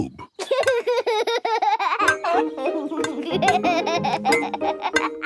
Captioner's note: laughs